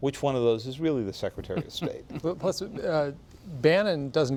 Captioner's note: laughter